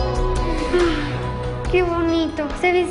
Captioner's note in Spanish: Suspiran